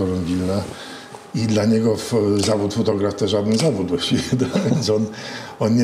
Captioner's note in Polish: śmiech